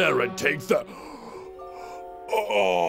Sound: gasp

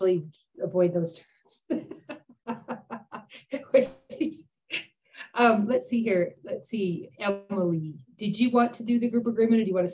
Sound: laughing

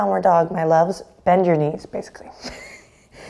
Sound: laughs

